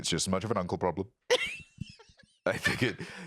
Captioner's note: laughs